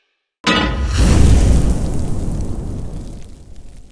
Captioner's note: clangs; sizzles